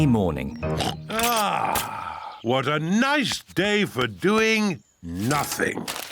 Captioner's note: oinks